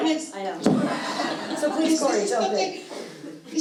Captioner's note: audince chuckling